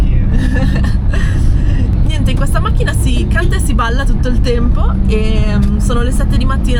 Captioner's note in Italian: risate